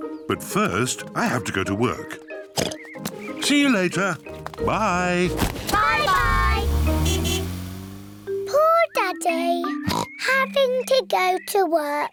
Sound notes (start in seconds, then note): 2.5 oinks; 4.6 toots horn; 9.8 oinks